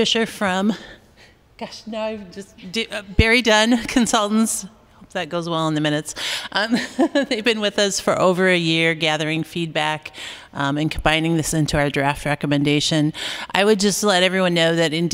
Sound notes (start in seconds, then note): 6.7 laughter